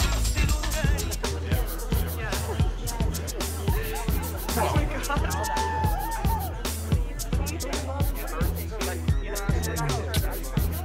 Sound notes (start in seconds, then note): 2.1 crowd chatter